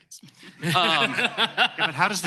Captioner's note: laughter